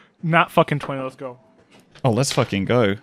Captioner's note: dice clacks